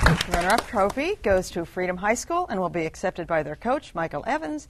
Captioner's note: applause